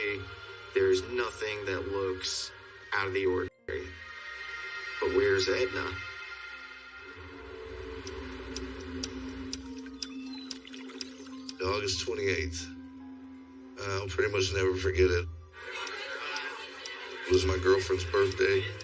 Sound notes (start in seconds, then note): 8.1 water babbling; 15.5 chatter